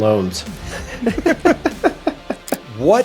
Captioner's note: laughing